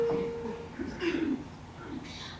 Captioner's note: note plays; clears throat